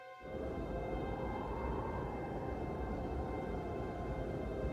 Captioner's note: wind blowing